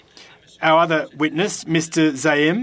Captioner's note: speaking FRENCH